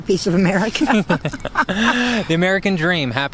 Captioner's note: both laughing